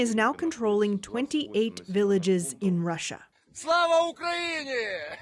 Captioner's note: speaking alternate language